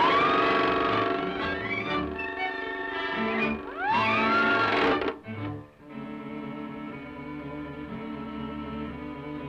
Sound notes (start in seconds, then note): 0.0 fish shouting; 0.0 fish tail whirring; 4.3 police siren ringing